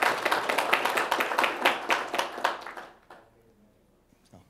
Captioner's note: audience applause